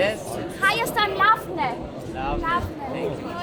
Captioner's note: in Armenian